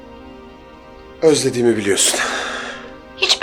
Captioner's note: sighs